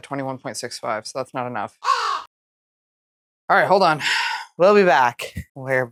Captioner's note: caw